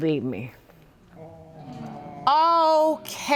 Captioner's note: audience moaning